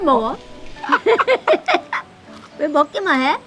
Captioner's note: both laughing